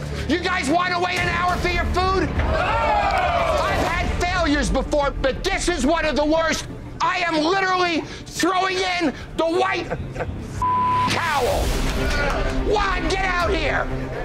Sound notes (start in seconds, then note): 2.3 customers clamoring; 10.6 beeping